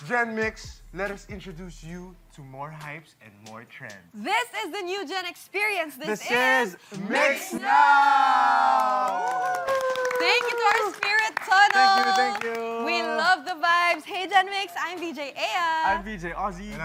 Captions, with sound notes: Gen MYX, let us introduce you to more hypes and more trends. This is the new gen experience. This is MYX Now! [CHEERING] - Thanks to our spirit tunnel! - Thank you! Thank you! We love the vibes. Hey, Gen MYX, I'm VJ Eya! I'm VJ Ozzie.